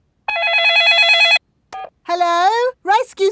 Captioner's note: dialing; cell phone ringing